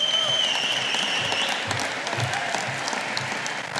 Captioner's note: audience applauding